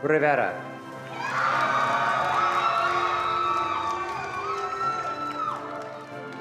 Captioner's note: attendees cheering and applauding